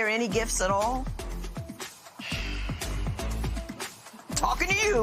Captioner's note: sighs